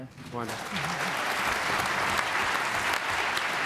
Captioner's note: applause